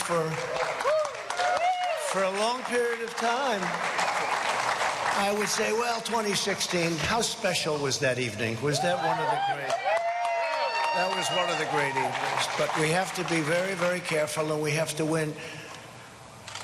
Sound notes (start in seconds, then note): 2.9 cheering and applause